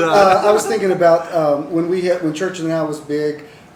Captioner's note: laughter